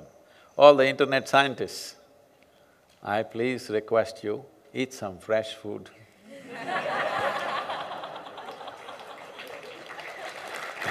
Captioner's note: laughter & Applause; 笑聲和掌聲